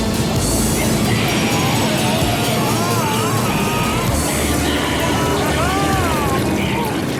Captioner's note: screaming